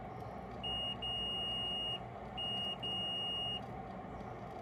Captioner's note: beep!